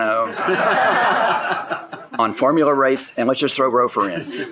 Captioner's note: people laughing